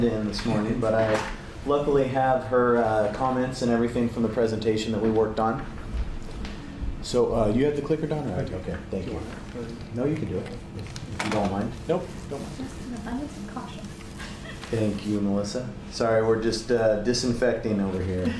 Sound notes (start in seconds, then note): 14.2 laughs